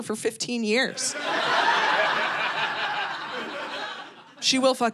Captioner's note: audience laughing